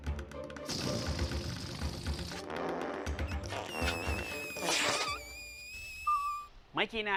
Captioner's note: fart noises